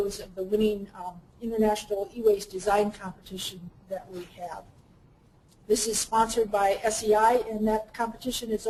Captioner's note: none